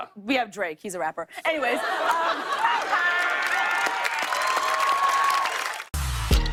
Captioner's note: cheers and applause